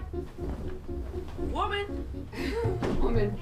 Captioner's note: chuckles